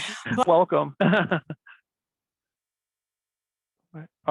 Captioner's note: chuckles